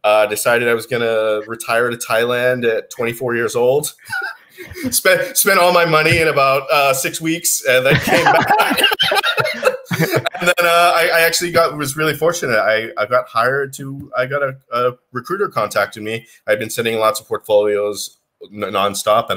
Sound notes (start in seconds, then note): 7.8 both laughing